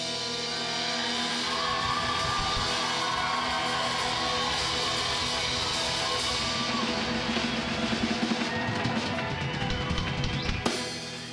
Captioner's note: crowd cheers